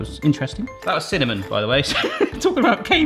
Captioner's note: laughs